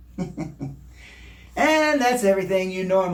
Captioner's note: chuckles